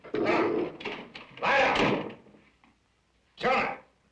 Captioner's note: dog growling